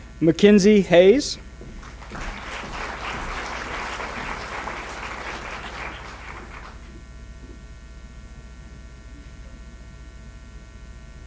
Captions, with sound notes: McKinsey Hayes. (applause)